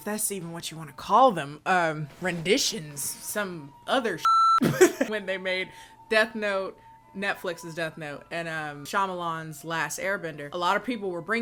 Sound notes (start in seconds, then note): 4.2 beeps; 4.6 laughs